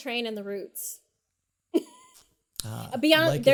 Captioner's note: laughs